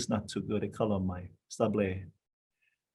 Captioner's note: speaking in foreign language